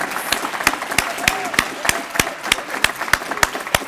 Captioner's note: applause